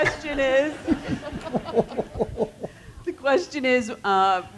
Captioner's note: laugh